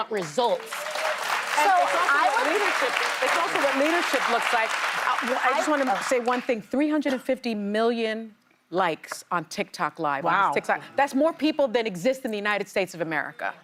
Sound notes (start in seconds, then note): 2.8 cheers and applause